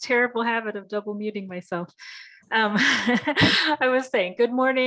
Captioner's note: chuckles